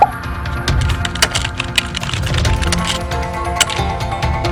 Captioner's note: bouncy music; typing on keyboard